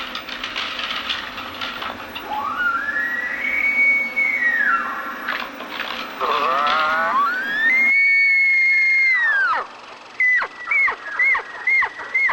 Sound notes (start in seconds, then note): 3.8 elk bugle